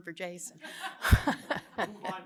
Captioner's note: laughter